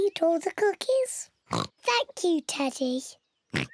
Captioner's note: in normal voice; oinking